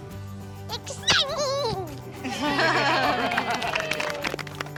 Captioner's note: everyone applauds